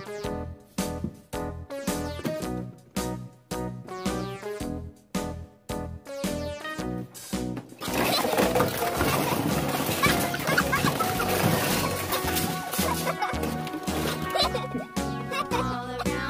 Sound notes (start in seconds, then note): 7.7 toys clash; 8.8 child laughter